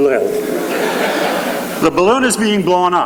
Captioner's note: laughing